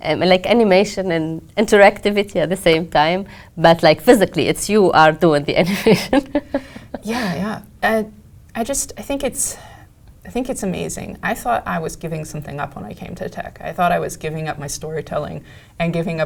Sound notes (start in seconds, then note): 5.7 laugh